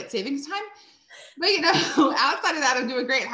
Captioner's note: chuckles